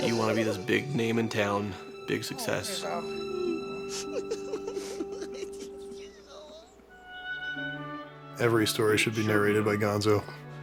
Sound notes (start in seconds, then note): 2.3 Rizzo sobs even more